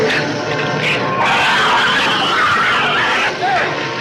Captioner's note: dramatic orchestral music; shrew shrieks